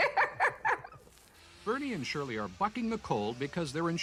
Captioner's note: laughs